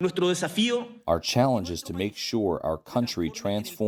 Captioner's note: through translator